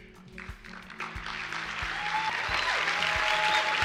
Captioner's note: applause